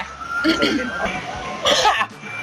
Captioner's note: coughing